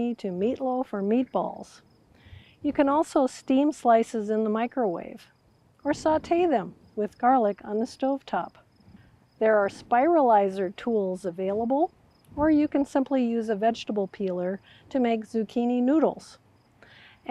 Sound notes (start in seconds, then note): none